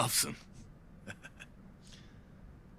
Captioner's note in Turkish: Bamsı gülme sesi